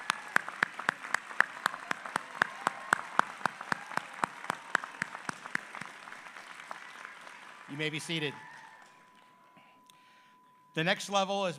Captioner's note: applause